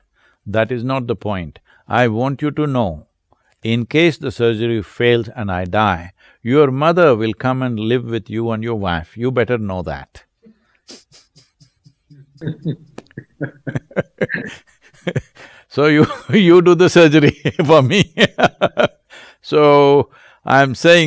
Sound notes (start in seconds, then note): 14.2 both laugh; 18.9 laughs